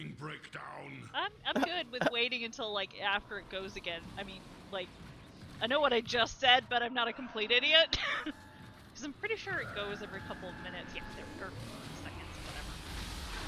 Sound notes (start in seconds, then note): 1.2 laughs